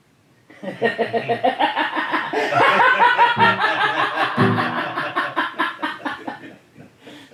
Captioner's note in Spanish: risas